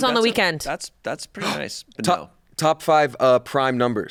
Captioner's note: gasps